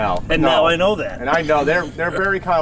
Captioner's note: chuckling